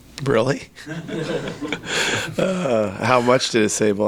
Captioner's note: crowd laughs